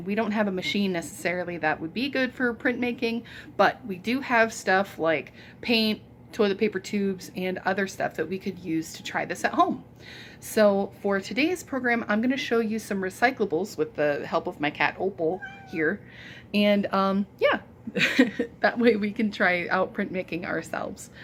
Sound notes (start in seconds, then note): 15.3 soft meow; 17.5 laughs